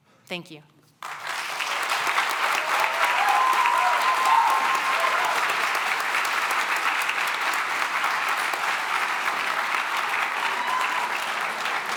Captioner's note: cheering and applause